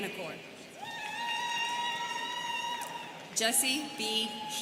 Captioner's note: students cheering